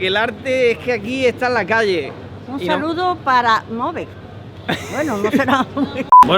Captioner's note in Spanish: risas